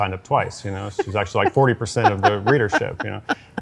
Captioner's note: laughs